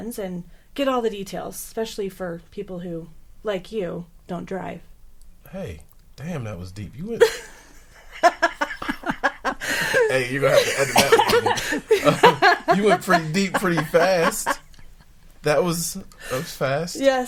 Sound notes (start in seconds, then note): 7.2 laughing